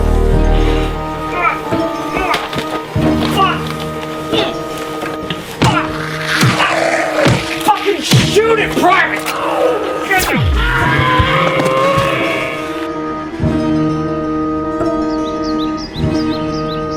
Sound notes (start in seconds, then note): 1.9 grunting; 5.6 ems growling; 9.6 ems screaming